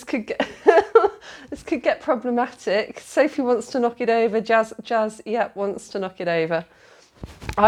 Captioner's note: laughing